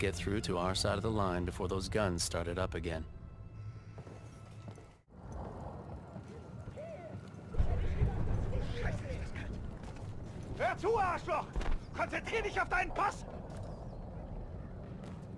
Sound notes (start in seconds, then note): 4.8 explosions; 11.1 speaking German; 11.4 gun fires